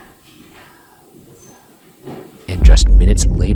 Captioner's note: whispering